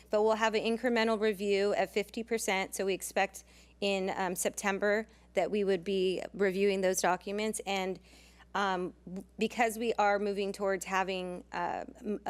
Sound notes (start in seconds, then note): none